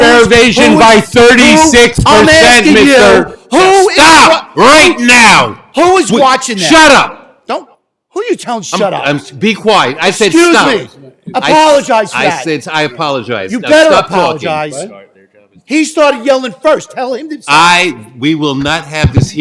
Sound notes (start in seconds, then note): 5.1 shouting